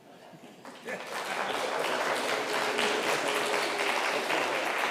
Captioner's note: crowd clapping